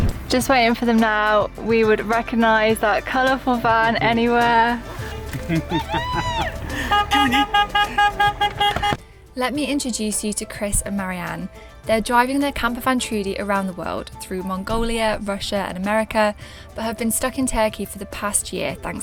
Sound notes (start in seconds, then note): 5.7 wooping & shouting, beeping car horns